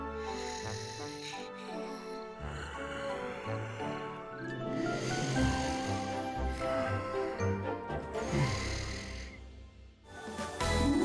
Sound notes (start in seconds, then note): 0.2 snoring softly